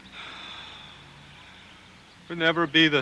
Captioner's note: Casey sighs